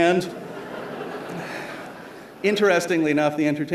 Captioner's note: laughter